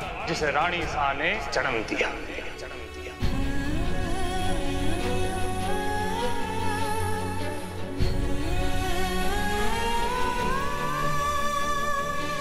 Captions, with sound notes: 'which Her Highness birthed.' [poignant vocalisation]